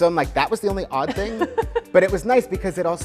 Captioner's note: laughs